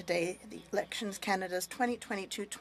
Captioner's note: speaking French